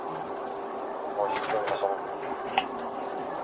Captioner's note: radio chatter